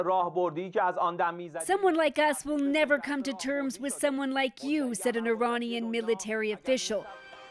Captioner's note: speaking alternate language